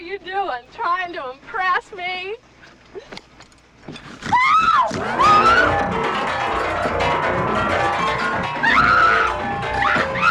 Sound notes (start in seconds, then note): 4.3 Sally screams; 4.9 Buddy snorts; 7.1 maniacal music